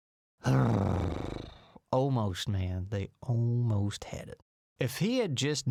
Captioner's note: sigh